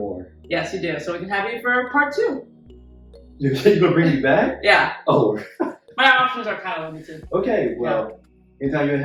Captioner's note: laughs